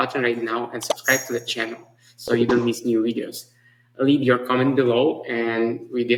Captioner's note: notification chime